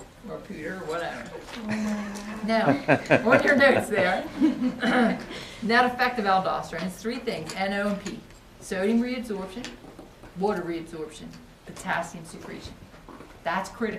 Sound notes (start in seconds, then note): 2.4 students laugh